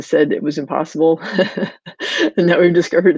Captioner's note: chuckling